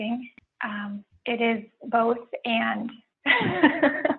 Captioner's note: laughs